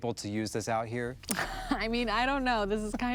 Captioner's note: laughs